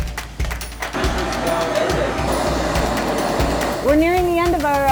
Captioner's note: torch roaring